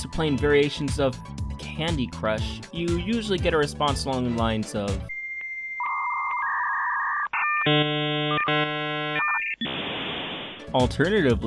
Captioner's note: modem sounds